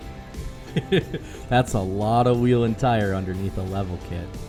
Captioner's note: laughing